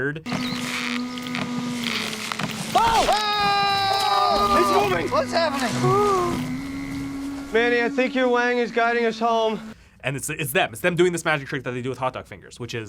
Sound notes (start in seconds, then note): 0.1 eerie creaking; 2.6 men scream